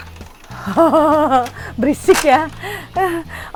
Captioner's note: laughs